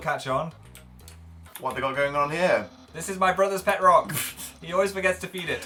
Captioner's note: snorts